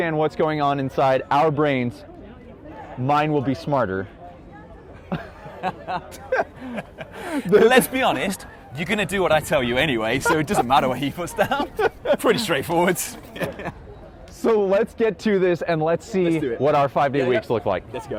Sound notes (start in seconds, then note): 5.1 laughing